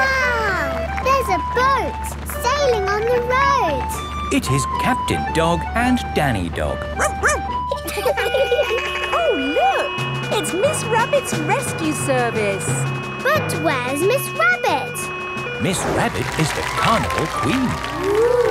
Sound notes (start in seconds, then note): 6.9 laughing; 6.9 barks; 8.0 sirens sounding